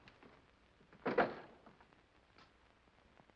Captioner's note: door closes